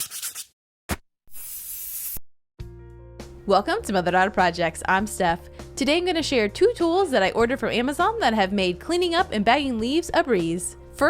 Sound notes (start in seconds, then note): 0.0 marker scribbling; 1.3 paint can spraying